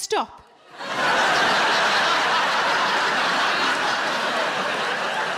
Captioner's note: audience laughs